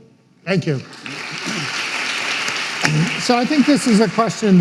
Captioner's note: audience applauding